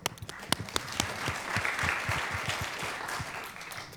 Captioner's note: applause